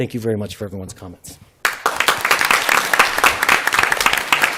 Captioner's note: applause